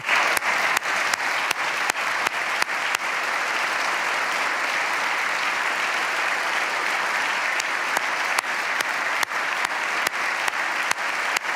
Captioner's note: applause